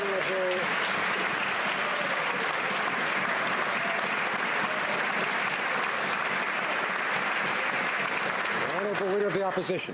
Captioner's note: some Applause